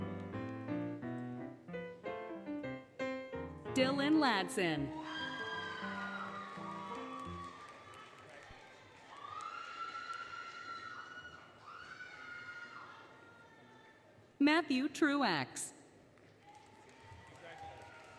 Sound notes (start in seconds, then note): 0.0 applause, Cheering, Music; 4.8 applause, Cheering, Music; 8.1 applause, Cheering; 16.2 applause, Cheering